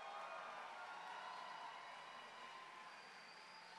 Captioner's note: applause